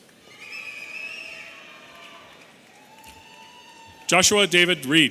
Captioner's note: audience cheering